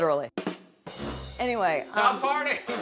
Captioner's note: fart